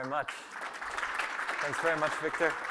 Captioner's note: applause